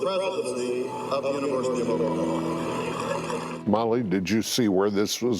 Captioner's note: applause